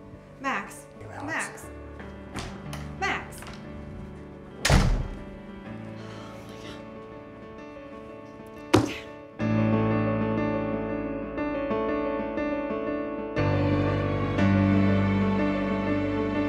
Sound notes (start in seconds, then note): 4.6 door thuds; 6.0 sighs; 8.6 hand thuds; 10.6 intense music continues